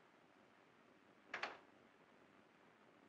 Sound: door downstairs closes

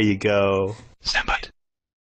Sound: whispering

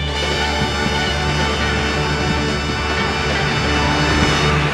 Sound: audience cheering

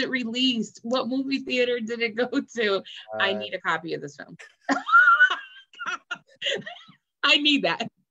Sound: laughs

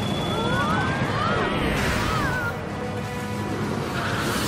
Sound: rumbling

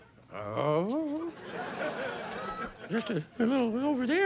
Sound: playful grunting; audience laughing

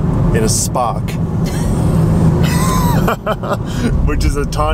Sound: both laughing

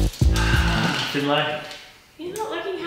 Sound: gasps

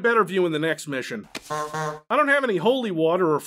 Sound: honk honk

